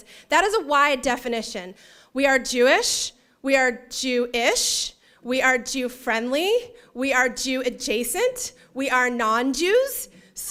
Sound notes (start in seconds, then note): none